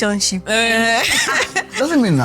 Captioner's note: laughs